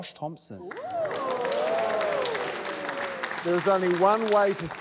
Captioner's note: cheering, applause